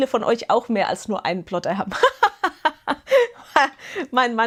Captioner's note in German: Gelächter